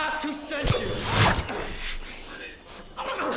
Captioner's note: grunting